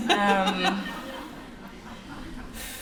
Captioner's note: laughter